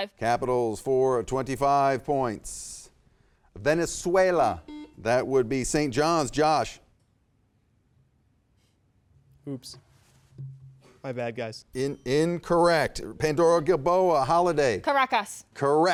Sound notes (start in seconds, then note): 4.6 buzzer buzzing; 10.4 bell dinging